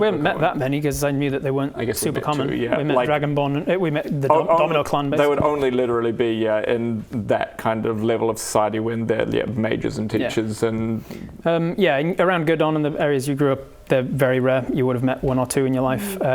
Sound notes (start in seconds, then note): none